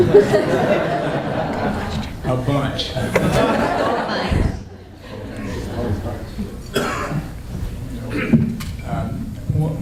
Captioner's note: laughter